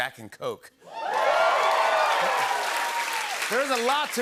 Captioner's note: cheering and applause